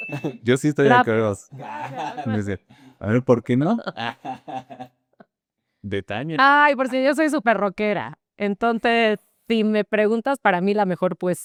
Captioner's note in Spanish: risas